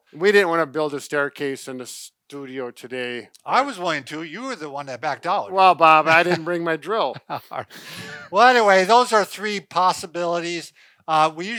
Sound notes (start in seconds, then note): 6.9 laughing